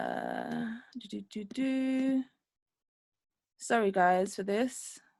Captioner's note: humming